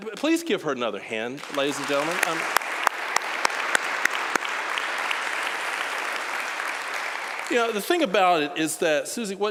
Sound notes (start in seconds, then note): 1.3 applause